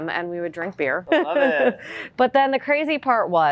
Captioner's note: laughing